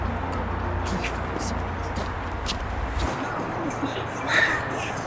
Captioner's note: tense music; faintly speaking